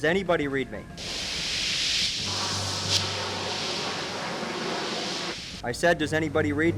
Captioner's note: loud static; aircraft whirring